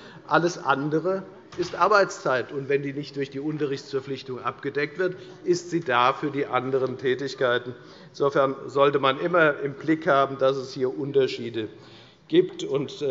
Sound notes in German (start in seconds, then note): none